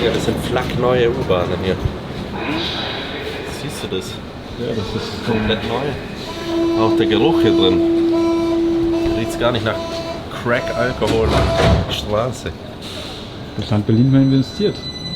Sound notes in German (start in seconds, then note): none